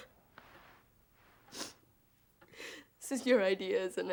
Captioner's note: sniffles